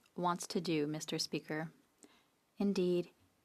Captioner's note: speaking French